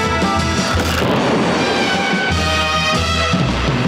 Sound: bomb explodes

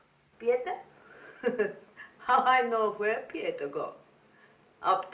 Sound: laughing

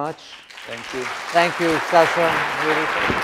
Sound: audience applauding

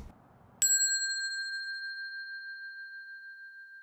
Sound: bell dinging

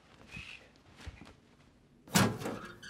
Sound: footsteps; old fusebox creacks open

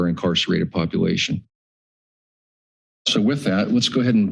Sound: pause

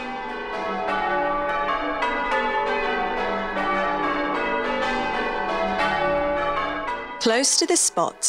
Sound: church Bells

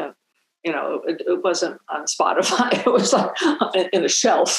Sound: chuckling

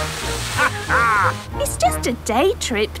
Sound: captain dog laughs

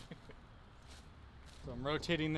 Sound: laughing

